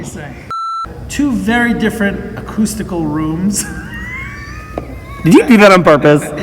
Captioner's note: wheeze